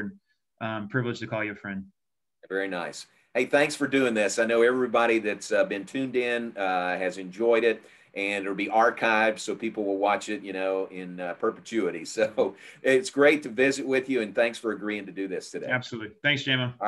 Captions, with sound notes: and I'm privileged to call you a friend. - Very nice. Hey, thanks for doing' this. I know everybody that's been tuned in has enjoyed it, and it'll be archived so people will watch it in perpetuity. (laughs) So it's great to visit with you, and thanks for agreeing' to do this today. - Absolutely, thanks, J-Mo.